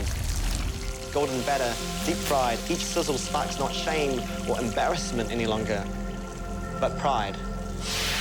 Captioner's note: oil sizzles